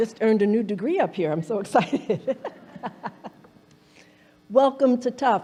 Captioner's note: laughing